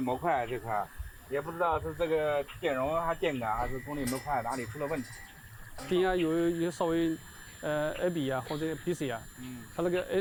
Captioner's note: speaking chinese